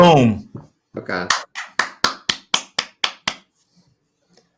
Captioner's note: clapping